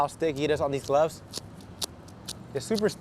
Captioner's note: clay bar smacking